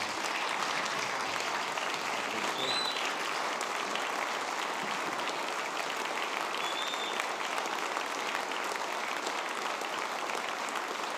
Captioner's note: applause